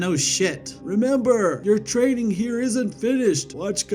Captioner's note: in old man's voice